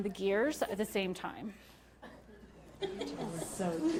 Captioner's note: laughter